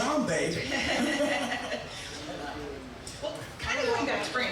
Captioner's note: both laughing